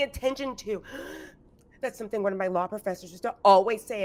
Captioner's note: gasps